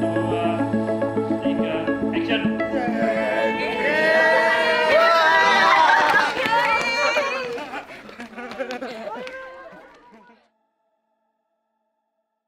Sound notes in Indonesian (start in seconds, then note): 2.7 Participants cheering